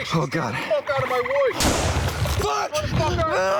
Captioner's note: sounds of shots fired